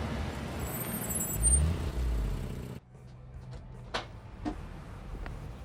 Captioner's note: vehicle brakes squeaking